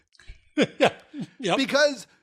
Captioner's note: laugh